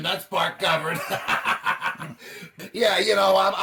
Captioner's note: both laughing maniacally